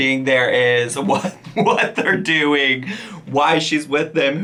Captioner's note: laughing